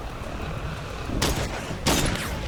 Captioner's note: gunfire